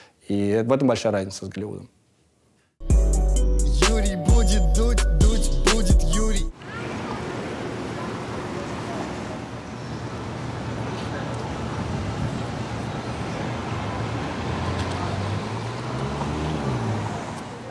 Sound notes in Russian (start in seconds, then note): 2.8 музыкальная заставка; 6.6 голоса, мотор, уличные звуки